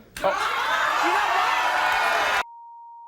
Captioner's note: crowd roars